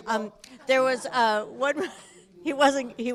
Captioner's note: laughing